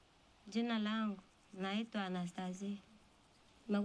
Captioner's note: non-english speech